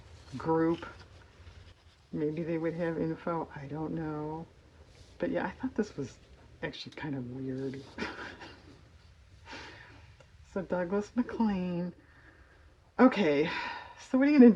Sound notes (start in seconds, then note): 8.0 laughs